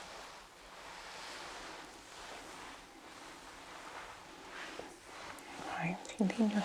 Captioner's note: shuffling and ruffling